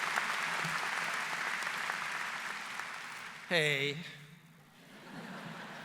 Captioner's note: laugher